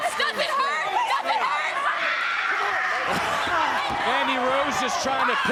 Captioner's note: screaming in piano